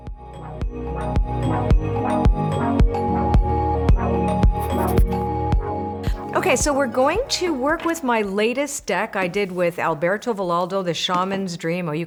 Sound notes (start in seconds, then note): 0.1 cheerful upbeat music; 4.5 pen scratching